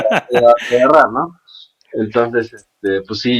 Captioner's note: laughs